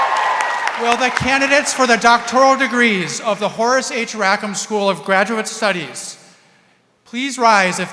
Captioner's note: applause